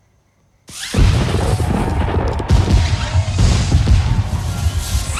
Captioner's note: fireworks exploding